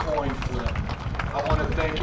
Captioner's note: applause